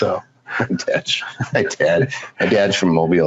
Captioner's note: laughs